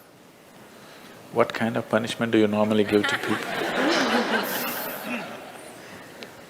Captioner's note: Smích